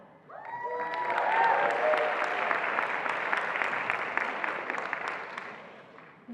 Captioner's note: attendees applauding and cheering